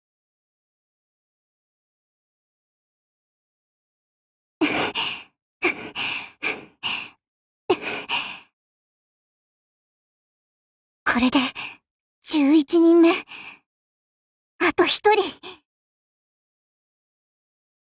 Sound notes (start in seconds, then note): 5.7 panting